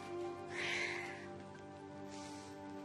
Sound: sighs

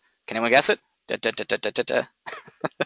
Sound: imitating drum roll; chuckles

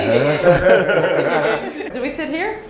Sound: laughs

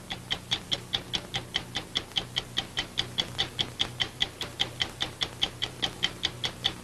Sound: clock ticking

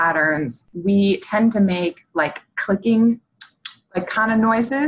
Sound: clicks

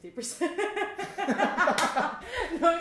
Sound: laughter

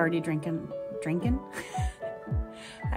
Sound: laughter

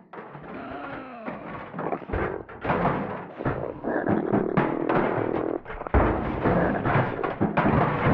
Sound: possum noises getting louder

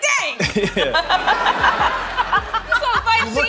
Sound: laughing

